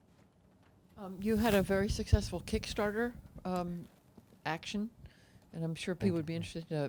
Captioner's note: voiceover